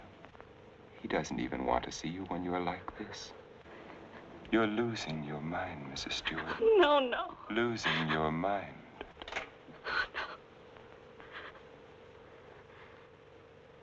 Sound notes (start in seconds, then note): 9.9 quavering